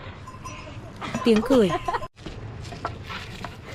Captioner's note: laughter